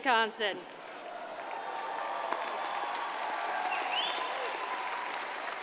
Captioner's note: audience cheers and applauds